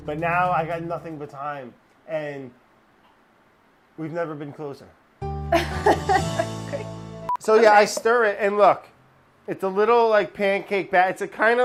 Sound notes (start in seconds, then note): 5.5 laughing